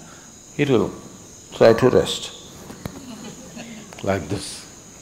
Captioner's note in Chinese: 笑聲